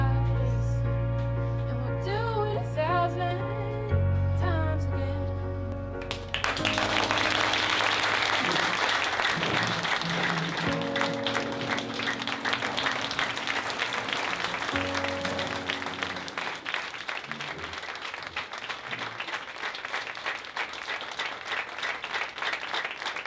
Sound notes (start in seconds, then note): 7.3 audience clapping